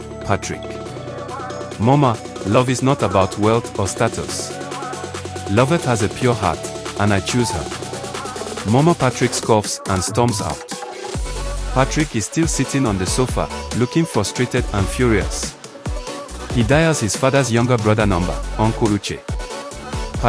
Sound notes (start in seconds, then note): 7.2 Mama Patrick scoffs and storms out